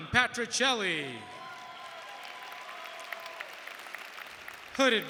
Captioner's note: audience cheering and applauding